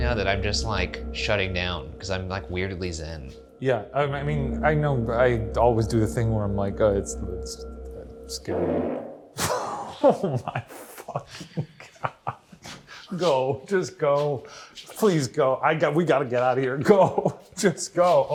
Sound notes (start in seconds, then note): 8.8 farting